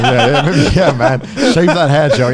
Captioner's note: laughing